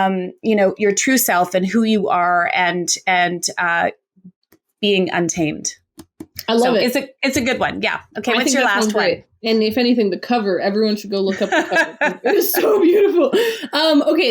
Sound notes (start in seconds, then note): 11.3 laughs